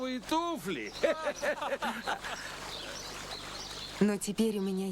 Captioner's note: laughter